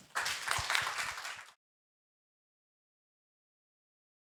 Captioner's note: all clapping